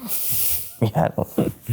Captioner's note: chuckling